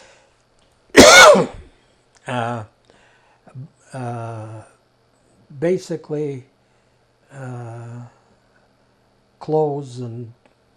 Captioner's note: coughing